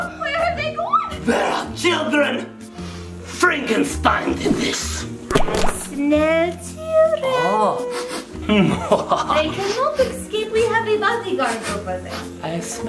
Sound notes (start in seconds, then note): 7.9 sniffing